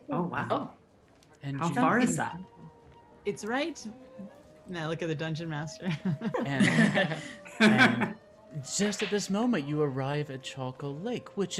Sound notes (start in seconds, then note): 5.8 laughs